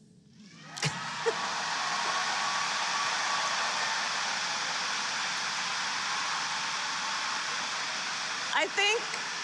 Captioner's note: applause; laughs